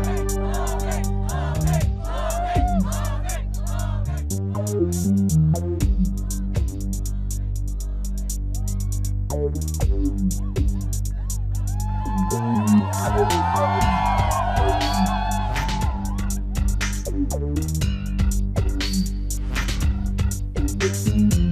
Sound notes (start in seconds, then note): 0.0 crowd; 5.3 crowd cheering; 11.6 crowd cheering and applauding continues; 17.3 upbeat music playing